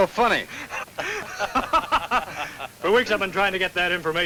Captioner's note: laughs